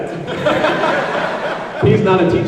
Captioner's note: laughs